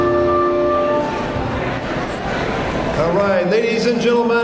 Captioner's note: audience chattering